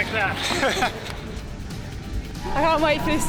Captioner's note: laughter